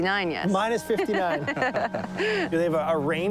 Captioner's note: all laughing